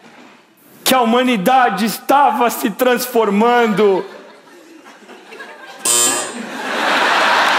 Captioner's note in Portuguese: campainha